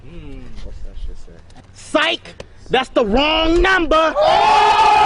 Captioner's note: cheering